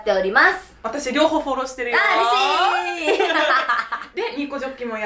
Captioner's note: laughs